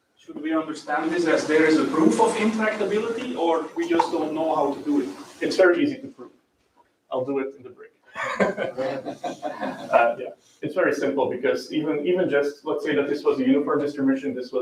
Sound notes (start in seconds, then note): 8.1 laughs